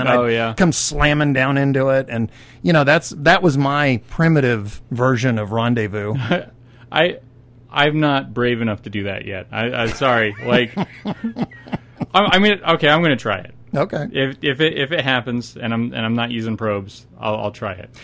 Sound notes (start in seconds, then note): 10.3 laughing